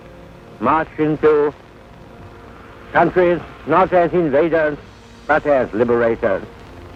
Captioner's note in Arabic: صوت إنجليزي منطوق